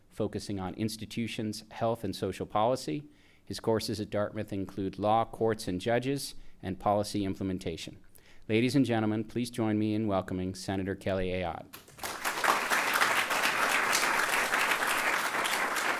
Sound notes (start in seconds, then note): 11.7 audience applauding